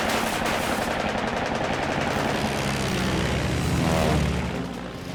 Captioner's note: bullets whirring